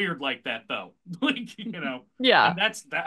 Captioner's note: laughs